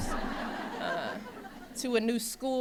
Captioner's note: laughter